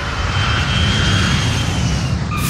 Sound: engine whirring

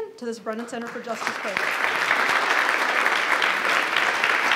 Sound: applauding

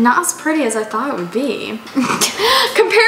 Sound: laughs

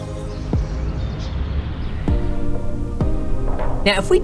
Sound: upbeat music; birds chirping

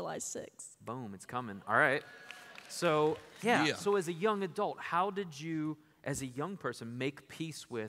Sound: applause

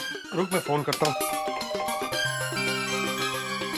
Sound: doorbell rings

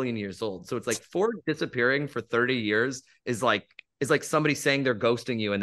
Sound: snaps fingers

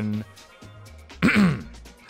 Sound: clears throat

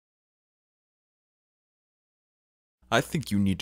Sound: more silence; even more silence

